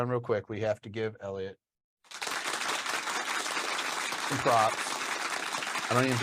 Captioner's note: synthetic applause